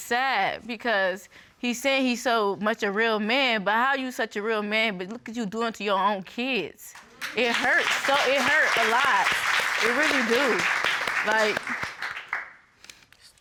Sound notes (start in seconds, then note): 6.9 audience applauding